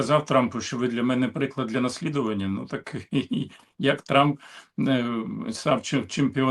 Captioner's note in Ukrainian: прочищення горла